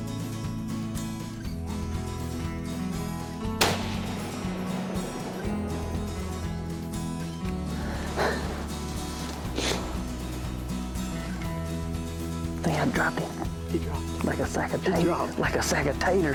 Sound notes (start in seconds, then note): 0.3 animal calling; 3.5 gun bangs; 7.6 panting